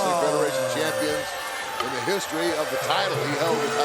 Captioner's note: crowd cheering